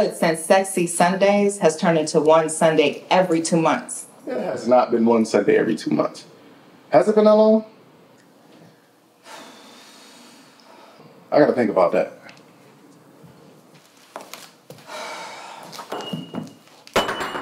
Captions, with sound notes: has turned into one Sunday every two months. - It has not been one Sunday every two months. Has it been that long? (Heather sighs) I gotta think about that. (Heather sighs) (metal clatters) (piano note blares)